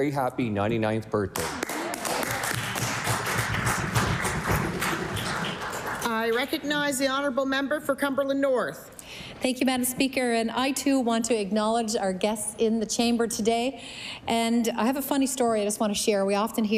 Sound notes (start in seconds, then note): 5.2 applause